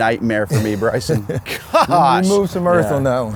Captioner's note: laughs